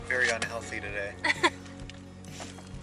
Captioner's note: laughs